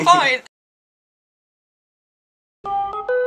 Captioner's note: laughs